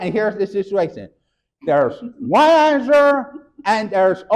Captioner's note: chuckles